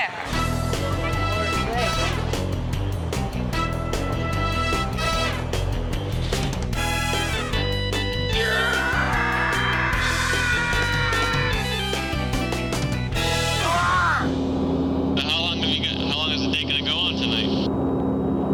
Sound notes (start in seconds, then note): 0.2 adventurous spy music; 8.3 screaming; 13.6 screams